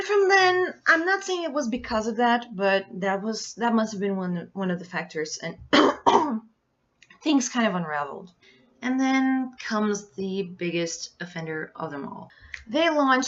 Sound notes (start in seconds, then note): 5.7 cough